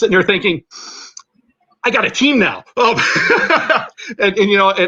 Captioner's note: laughter